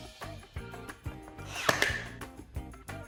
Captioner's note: nailer clicks